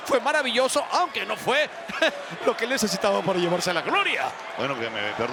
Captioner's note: laugh